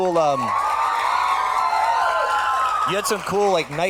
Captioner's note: audience cheers and applauds